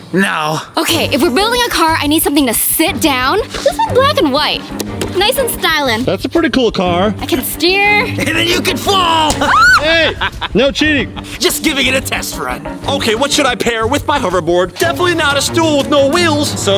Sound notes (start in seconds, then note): 4.7 patting; 9.3 screaming